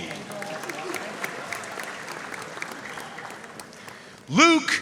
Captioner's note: audience cheering and applauding